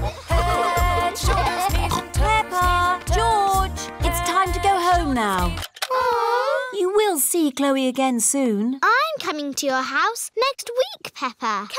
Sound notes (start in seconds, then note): 5.7 music stops; 5.9 all groan